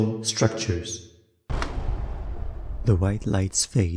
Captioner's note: generator going out SFX